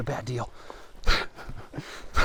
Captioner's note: laughing